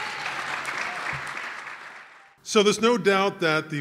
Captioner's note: cheers and applause